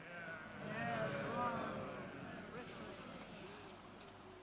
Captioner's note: crowd murmurs